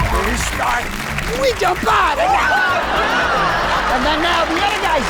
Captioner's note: laughing